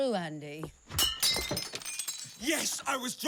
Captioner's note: glass shattering